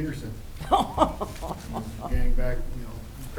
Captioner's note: laughs